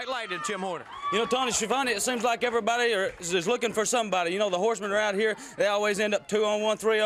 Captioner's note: crowd cheering